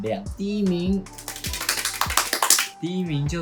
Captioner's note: slapping laps